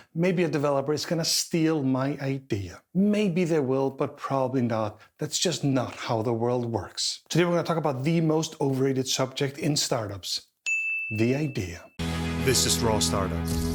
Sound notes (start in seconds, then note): 10.6 bell dings